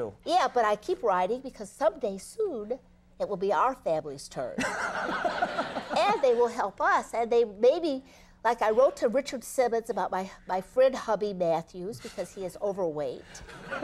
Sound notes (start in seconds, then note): 4.6 audience laughing